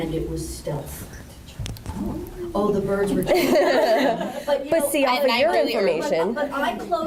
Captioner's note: laughter